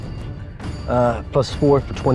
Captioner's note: die rattling